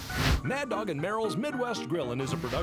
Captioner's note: air whooshing; bouncy piano music